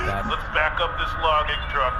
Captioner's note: a truck beeps on Tree Boy